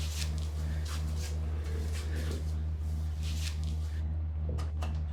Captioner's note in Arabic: طنين الآلة